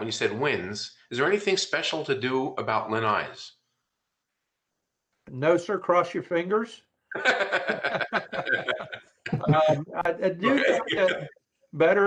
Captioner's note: laughter